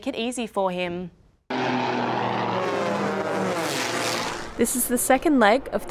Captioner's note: plane engine roars